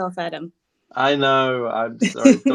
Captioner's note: laughs